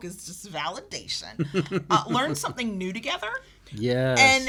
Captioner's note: chuckles